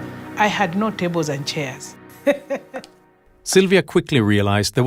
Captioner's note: laughs